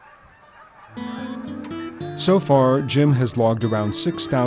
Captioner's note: geese honking